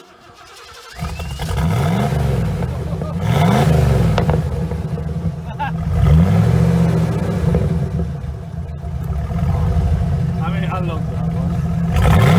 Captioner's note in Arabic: صوت v8، رائع